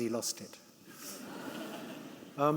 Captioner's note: audience laughing